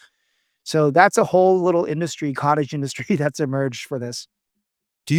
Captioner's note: laughs